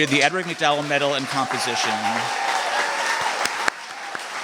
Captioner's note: applause